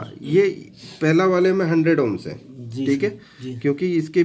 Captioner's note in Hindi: नाक से की जाने वाली आवाज़